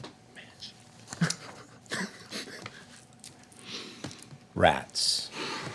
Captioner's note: muffled laughter